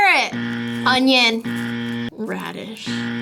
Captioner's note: buzzer